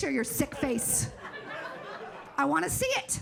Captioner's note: audience laughing